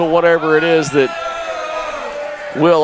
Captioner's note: crowd booing